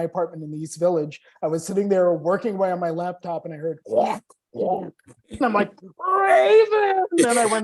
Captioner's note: croak, croak